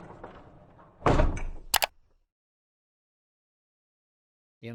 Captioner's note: keyboard clicking